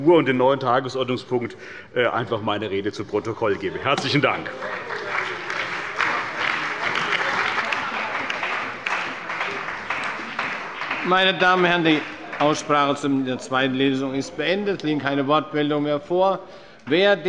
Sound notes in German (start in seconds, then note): 4.0 Beifall bei der CDU und dem BÜNDNIS 90/DIE GRÜNEN